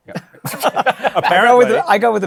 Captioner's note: laughter